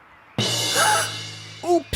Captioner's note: gasps